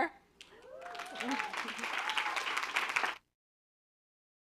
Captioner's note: applause